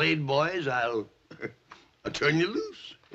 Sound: laughs

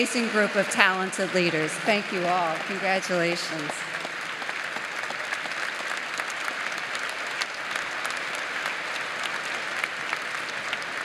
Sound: applause

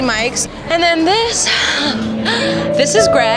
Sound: sighs

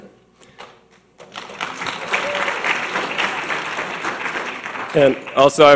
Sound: audience clapping

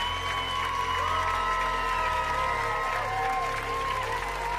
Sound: whistling; cheering and applause

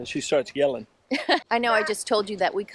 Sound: giggling

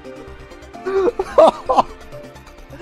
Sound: sobs

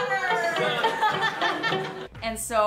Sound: laughing

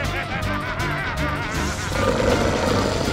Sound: laughing; growling

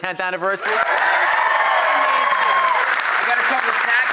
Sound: audience applause

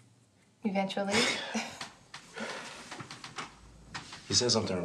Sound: both chuckling

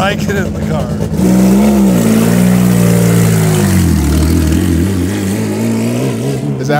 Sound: engine Revving

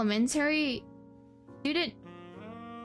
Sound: stutter

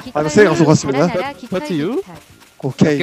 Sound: in broken English

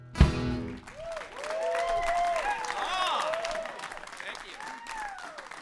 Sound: applause

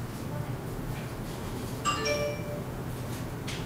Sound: ding

